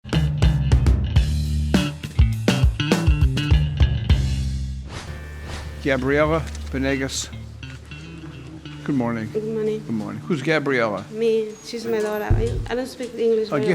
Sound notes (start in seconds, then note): 0.0 upbeat folk music; 4.9 air whooshing